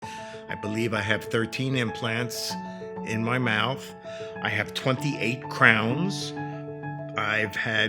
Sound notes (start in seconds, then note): 0.0 inhales deeply